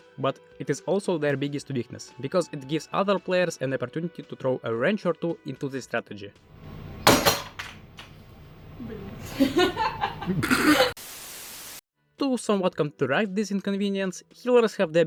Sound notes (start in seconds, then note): 6.8 loud thud